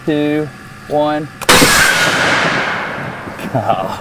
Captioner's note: cannon fires